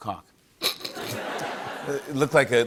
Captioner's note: laughter